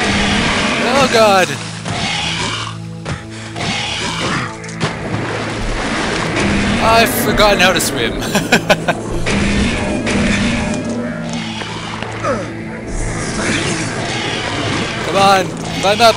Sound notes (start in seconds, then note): 3.6 monster retches; 4.2 gunfire; 7.5 laughs; 11.1 monster retches